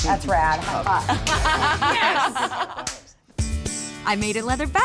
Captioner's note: laughter